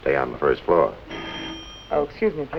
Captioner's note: phone rings